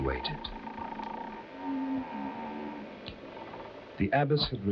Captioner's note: bridge creaking; soft foreboding music